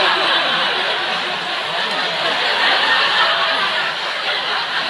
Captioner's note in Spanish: Risas